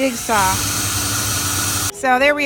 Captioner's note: drill spinning